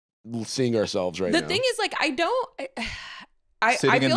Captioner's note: sighs